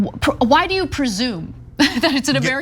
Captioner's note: laugh